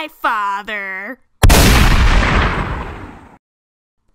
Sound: gun shot sound

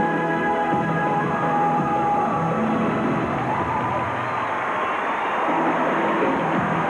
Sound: applausend cheering

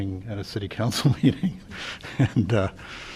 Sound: laughter

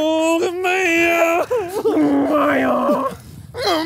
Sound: laughs

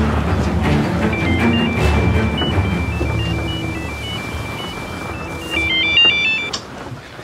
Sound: A modern mobile phone ringtone plays

